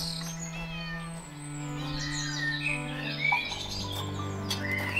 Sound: Fudge meows

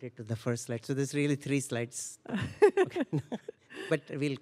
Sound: laughter

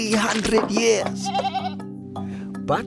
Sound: bleating

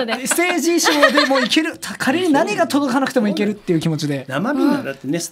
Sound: laugh

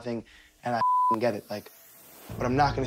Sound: beep

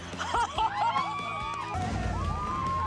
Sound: all whoop and cheer

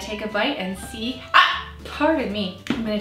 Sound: hiccups

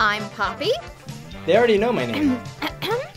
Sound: Princess Poppy makes coughing noise

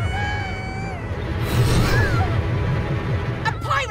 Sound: ominous music; ships whoosh

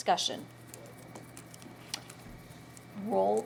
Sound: rustling

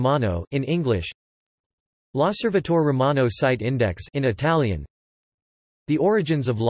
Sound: in Italian

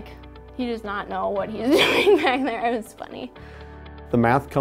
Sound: laughs

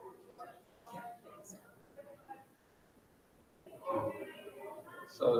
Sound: faintly speaking

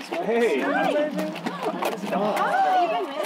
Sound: chattering

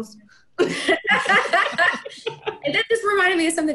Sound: everyone laughing

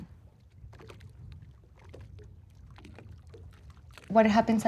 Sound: water sloshing

